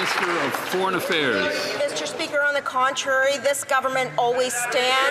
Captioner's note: some Applause